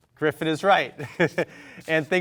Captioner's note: chuckles